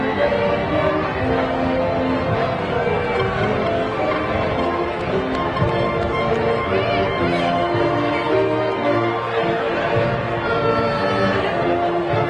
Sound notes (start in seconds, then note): 2.5 school orchestral music continues; 7.8 crowd chattering